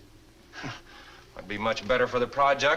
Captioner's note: scoffs